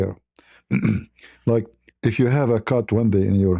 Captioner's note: berdehem